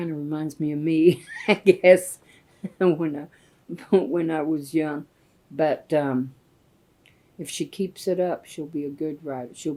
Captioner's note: laughs